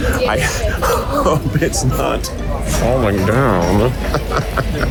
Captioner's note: laughs